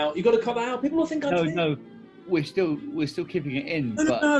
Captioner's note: none